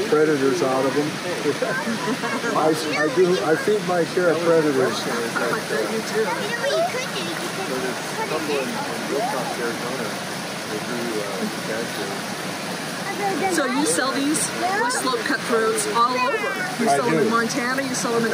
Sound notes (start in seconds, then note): 7.1 kids chattering; 10.3 water splashing